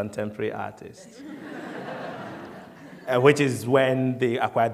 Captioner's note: laughter